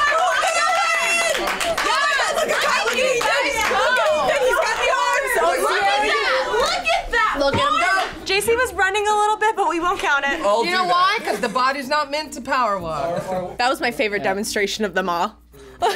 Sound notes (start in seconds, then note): 2.0 reactors cheering over each other; 15.7 laughs